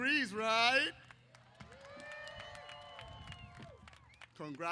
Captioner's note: applause & Cheers